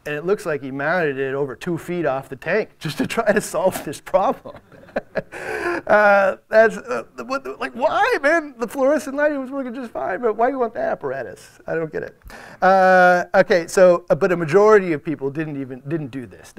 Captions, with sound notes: and it looks like he mounted it over two feet off the tank, just to try to solve this problem. (audience laughs) That's like why man, but why do you want the apparatus? I don't get it. But a majority of people didn't do this.